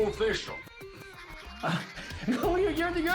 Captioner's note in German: lacht